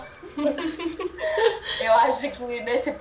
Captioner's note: laughs